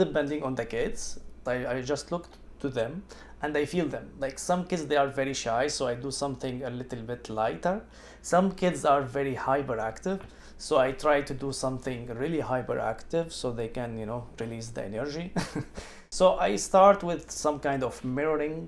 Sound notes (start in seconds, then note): 15.4 laughs